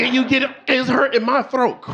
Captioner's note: audience laughing